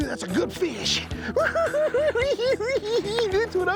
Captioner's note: cackling